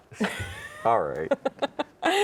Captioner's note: laughs